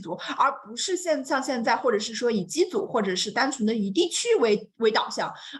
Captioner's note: continues speaking in Mandarin